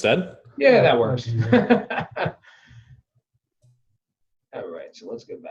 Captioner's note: laughing